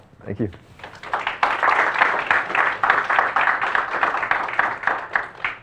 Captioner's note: audience applauding